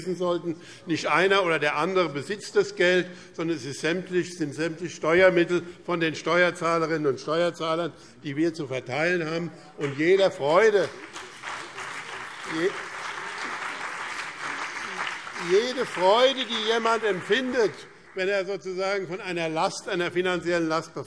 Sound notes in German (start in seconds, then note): 9.8 Beifall BÜNDNIS 90/DIE GRÜNEN und CDU